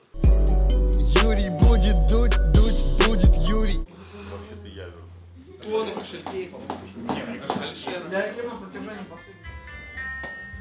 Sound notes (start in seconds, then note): 0.0 title card music; 4.2 chatter